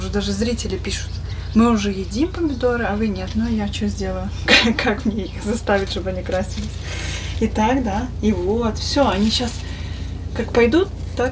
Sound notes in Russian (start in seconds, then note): 4.4 откашливается; 6.4 фыркает